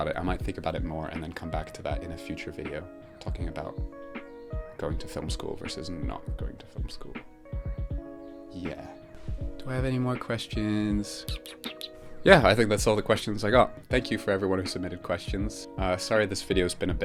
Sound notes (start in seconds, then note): 11.3 weird mouth kissy noises